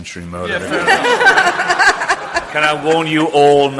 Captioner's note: audience laughs